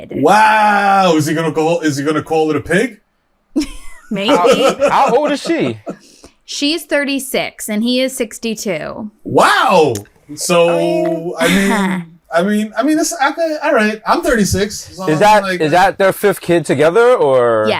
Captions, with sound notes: Wow. Is he going to call-- is he going to call it a pig? [CHUCKLES] How old is she? Wow. So, I mean-- I mean, that's-- all right. I'm 36. So I mean, like-- Is that-- is that their fifth kid together? Or--